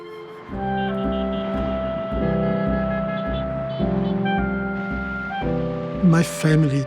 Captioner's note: cars honking